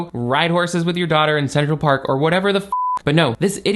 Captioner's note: beep